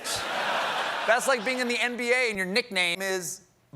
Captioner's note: laughter